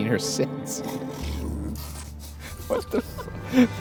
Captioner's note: giggling